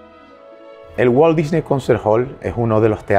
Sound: in Spanish

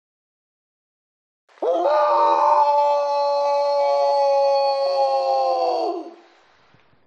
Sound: morgan howling

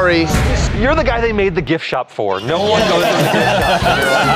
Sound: laughter

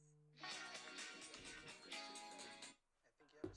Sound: phone ringing

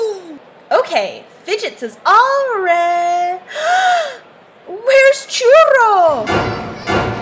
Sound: gasp

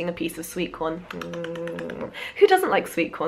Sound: imitating hamster eating sounds

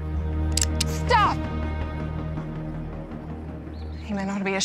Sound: tense music; cocks gun

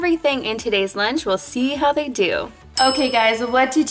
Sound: bell chimes

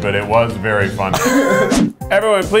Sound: laughing

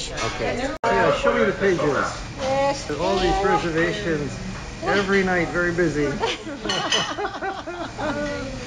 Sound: laughs

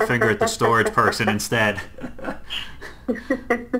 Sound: laughs

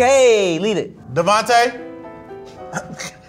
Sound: laughs

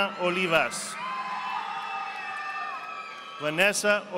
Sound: audience applauding

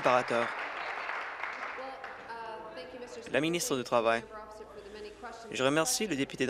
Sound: applause

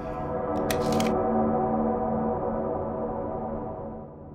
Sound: camera clicks

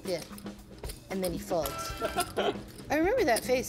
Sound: laughing

